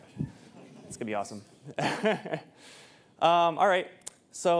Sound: chuckles

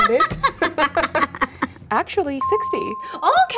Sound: laughs

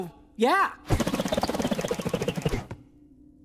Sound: whirring

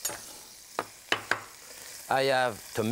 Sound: knife tapping

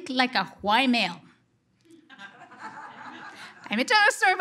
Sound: audience laughter

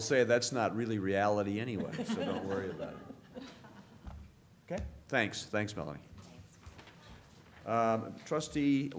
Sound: laughter

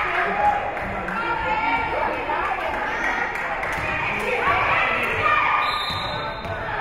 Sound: spectators cheering and applauding; spectators shouting encouragements; whistle being blown

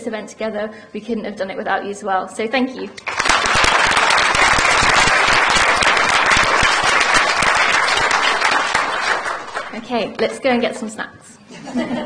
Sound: applause; laughter

